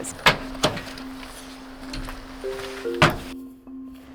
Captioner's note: trunk clicking